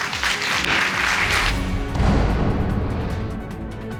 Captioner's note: audience applauding